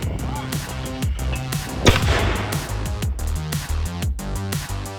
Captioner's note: mortar firing